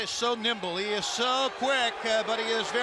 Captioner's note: crowd cheering